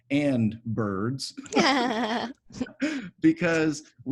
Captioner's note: giggling